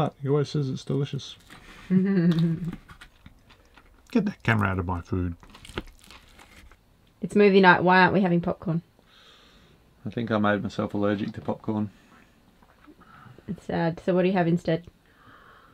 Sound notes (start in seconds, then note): 1.8 laughs